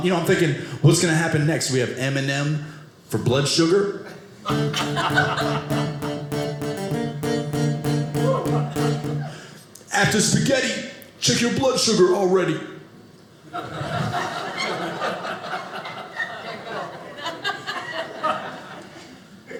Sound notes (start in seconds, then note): 4.4 guitar playing; 13.6 audience laughing